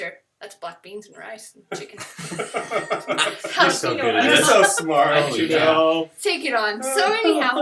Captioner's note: laughter